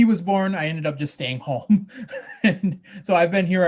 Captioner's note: he laughs